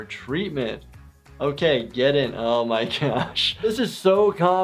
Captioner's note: laughs